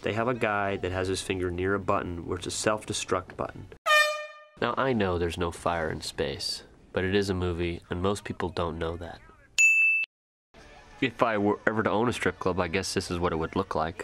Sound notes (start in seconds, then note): 3.8 air horn; 9.6 ding